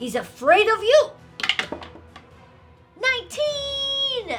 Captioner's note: dice rattling